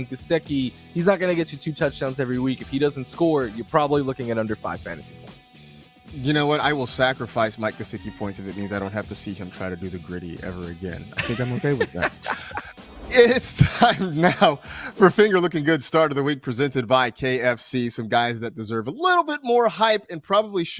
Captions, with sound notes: THERE I GET TO TOUCH GAMES EVERY WEEK UNDERSCORE LOOKING AT UNDER FIVE FANTASY POINTS. I WILL SACRIFICE POINTS IF I DON'T EVER HAVE TO SEE THEM TO THE GRITTY AGAIN. [LAUGHS] [LAUGHS] >> IT'S TIME NOW FOR FINGER LICKING GOOD PERCENT BY KFC SOME GUYS WHO DESERVE A LITTLE BIT MORE HYPE AND PROBABLY SHOULD BE